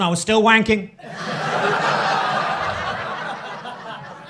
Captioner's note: crowd laughing